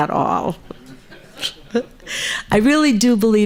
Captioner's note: audience laughs